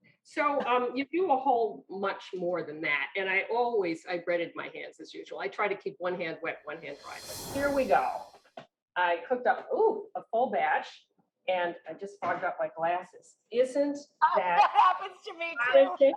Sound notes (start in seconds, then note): 14.3 laughs